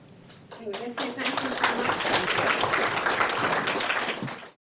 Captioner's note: audience applauds